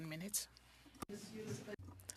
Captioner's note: speaking French